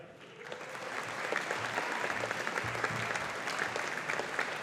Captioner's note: audience applauding